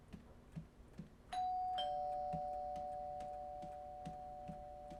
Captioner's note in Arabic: رنين جرس الباب